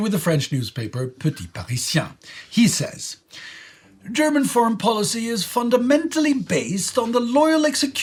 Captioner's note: German foreign